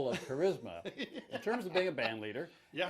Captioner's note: laughs